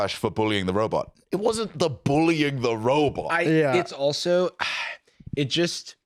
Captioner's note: sighs